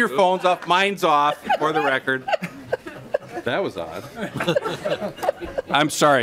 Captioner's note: laughing